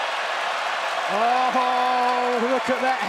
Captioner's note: crowd cheering